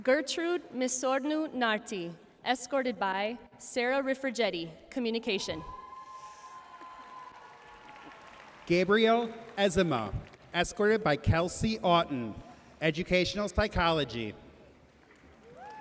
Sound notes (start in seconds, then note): 5.8 audience cheering and applauding